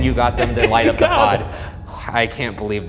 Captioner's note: dramatic music; laughing